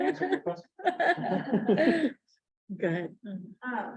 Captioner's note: laughter